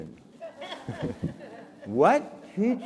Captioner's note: audience laughing